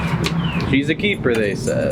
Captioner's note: birds chirping